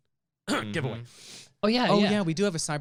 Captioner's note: clears throat